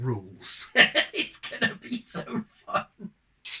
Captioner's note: laugh